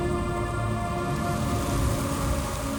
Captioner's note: rushing wind